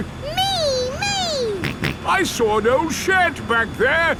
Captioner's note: snorts